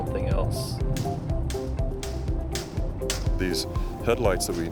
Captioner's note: hammering